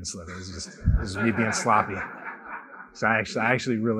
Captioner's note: laughter